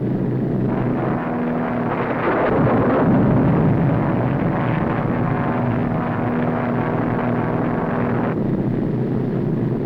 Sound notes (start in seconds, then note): 0.7 thunder rumbling; 2.1 plane whirring